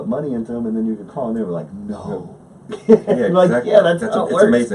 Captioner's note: laughs